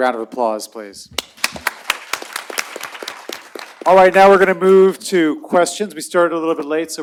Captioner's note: applause